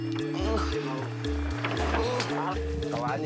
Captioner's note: Portuguese spoken audio